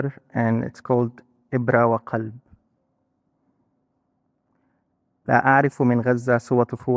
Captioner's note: speaking in foreign language